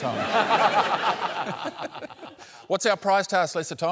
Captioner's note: laughter